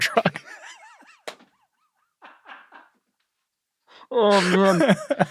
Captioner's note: laughing